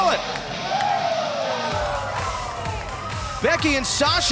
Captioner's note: crowd cheering